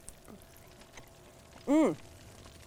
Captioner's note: fire sizzling